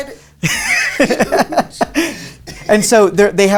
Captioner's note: laughs